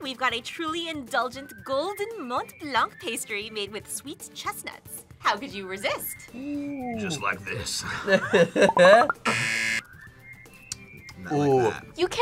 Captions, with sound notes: we've got a truly indulgent golden Mont Blanc pastry made with sweet chestnuts. How could you resist? - Ooh! - Just like this. (both laugh) (buzzer) - Not like that. - Ooh!